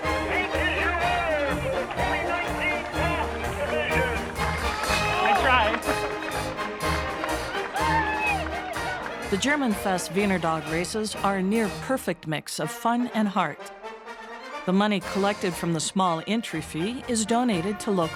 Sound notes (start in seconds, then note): 4.0 crowd cheering; 6.6 crowd cheering; 6.6 marching band music